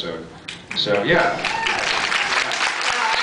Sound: cheers and applause; applause

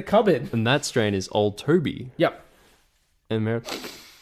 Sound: sniffs

